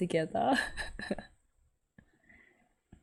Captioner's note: laughs